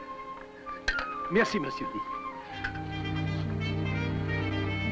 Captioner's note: speaks in french